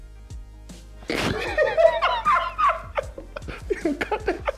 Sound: both laughing

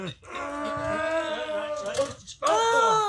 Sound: grunts; Franky moans

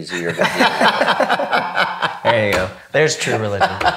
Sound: everyone laughing

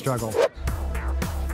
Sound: funky pop music; air whooshing

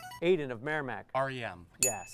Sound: ding

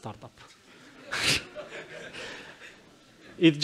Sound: laughter in the audience

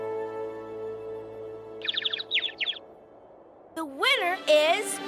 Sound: bird tweeting

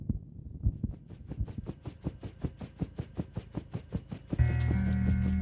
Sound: helicopter whirs

